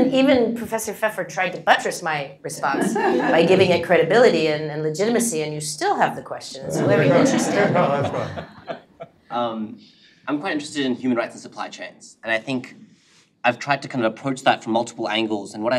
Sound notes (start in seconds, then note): 6.6 laugh